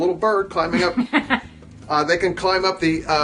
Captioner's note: woman laughing